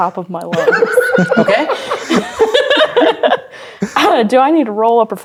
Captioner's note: players laughing